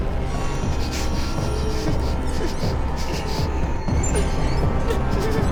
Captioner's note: Claire whimpering; tense music continues